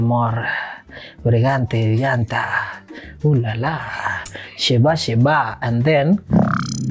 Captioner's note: reciting